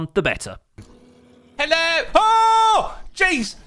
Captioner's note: screams